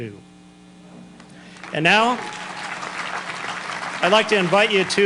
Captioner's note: applause